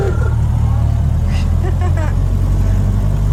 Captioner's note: laughter